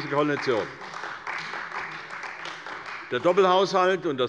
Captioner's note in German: Beifall bei der CDU